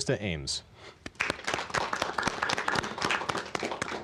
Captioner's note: applause